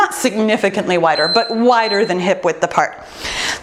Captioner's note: bell dinging